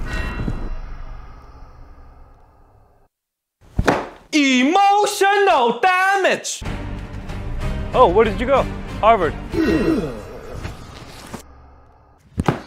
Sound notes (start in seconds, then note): 3.8 slam